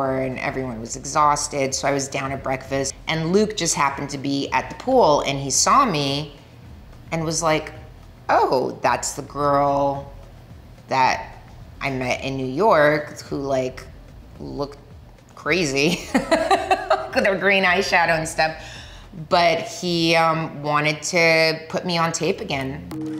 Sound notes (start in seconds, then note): 15.9 Milla laughing happily; 22.3 curious rhythmic music